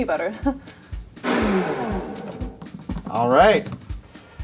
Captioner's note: blender grinding